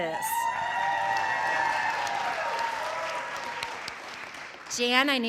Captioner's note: audience cheering; audience applauding